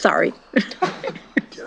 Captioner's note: chuckles